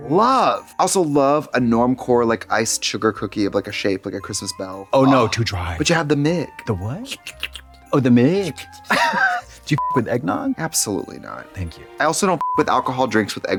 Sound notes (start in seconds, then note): 7.1 Trixie guzzles; 7.2 Trixie slurps; 9.9 beep; 12.7 beep